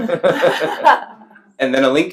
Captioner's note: laughs